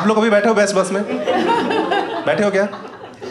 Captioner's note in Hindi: हँसना